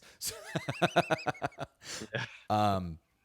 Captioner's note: laughs